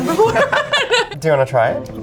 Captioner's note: both laugh